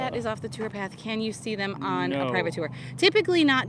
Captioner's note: none